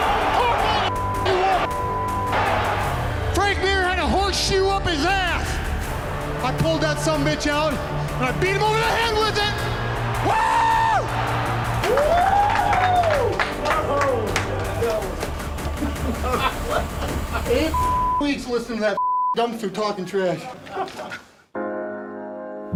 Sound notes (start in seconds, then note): 11.8 clapping; 15.7 laughter